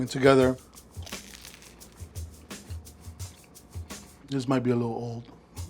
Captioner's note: egg roll crunching